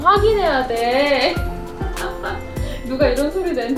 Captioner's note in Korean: 웃음